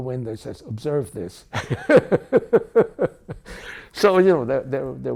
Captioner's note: laughs